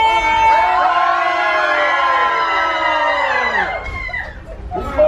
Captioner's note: cheerful screaming